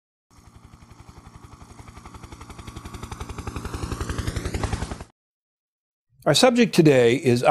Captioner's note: helicopter in flight